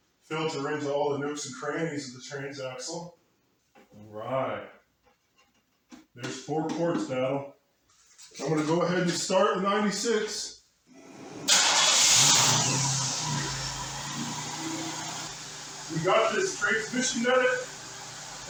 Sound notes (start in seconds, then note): 10.9 engine starts & idles